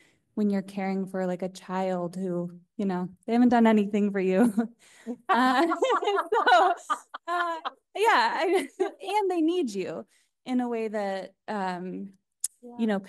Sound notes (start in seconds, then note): 5.1 all laughing